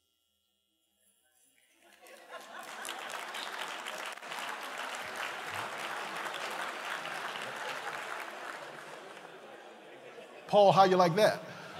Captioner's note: applause